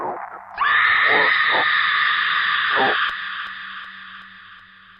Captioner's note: woman screaming; suspenseful music